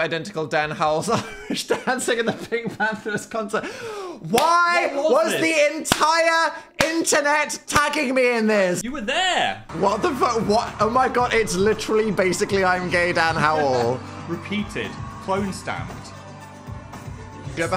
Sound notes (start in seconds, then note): 2.2 laughs; 5.9 claps